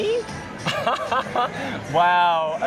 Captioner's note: laughter